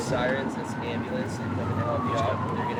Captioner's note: sirens